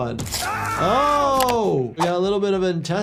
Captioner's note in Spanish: Homero gritando